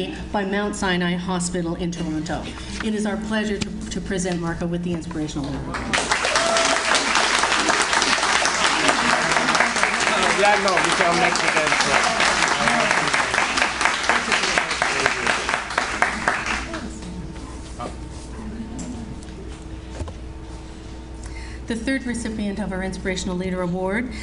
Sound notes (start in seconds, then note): 8.5 audience Applauds